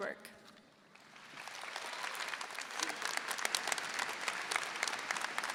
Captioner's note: everyone applauding